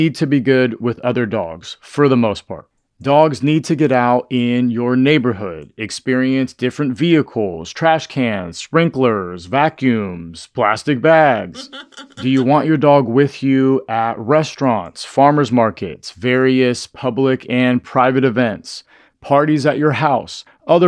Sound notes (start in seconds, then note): 11.3 haha